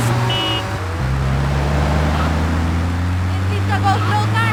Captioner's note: tires screeching